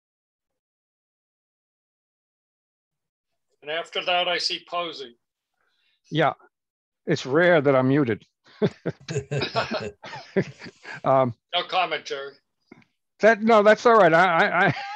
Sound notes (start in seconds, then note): 8.5 laughter